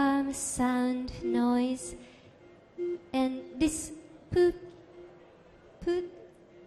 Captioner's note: beeping